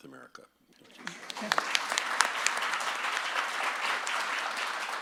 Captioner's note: audience claps